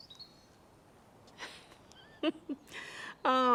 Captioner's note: chuckles